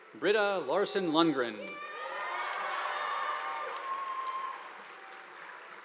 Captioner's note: audience applauding